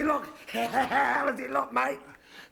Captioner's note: laugh